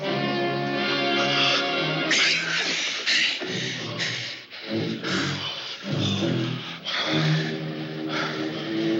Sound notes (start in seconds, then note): 1.6 grunting